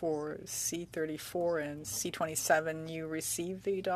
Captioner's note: speaking French